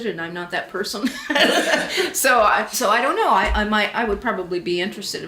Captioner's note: laughs